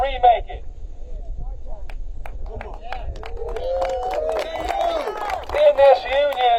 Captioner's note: applause